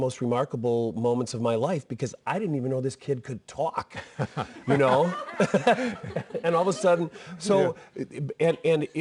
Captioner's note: laughter